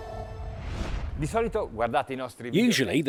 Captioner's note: speaking Italian